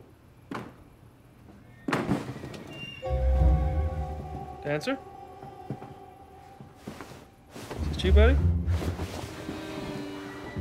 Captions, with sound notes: (banging noise) Dancer? (footsteps) Is that you buddy?